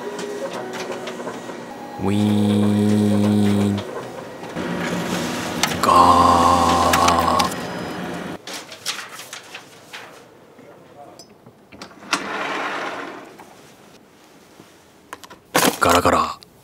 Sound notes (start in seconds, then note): 5.6 paper coming out